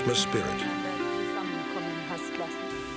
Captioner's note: speaking german